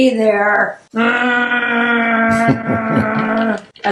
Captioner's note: groans